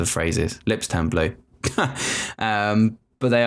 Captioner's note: laughing